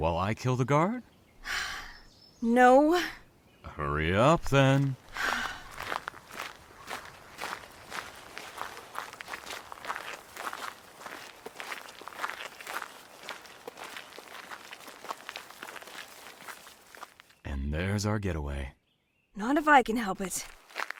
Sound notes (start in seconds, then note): 5.0 sighs